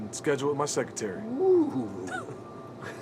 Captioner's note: laughs